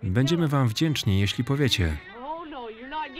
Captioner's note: baby crying